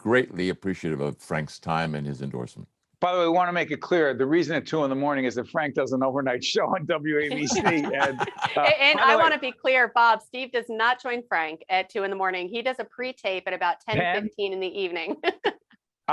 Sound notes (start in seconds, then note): 7.3 all laughing